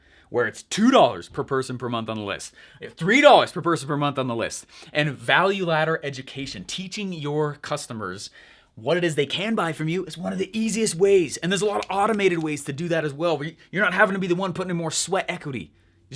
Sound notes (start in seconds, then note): 11.7 snapping fingers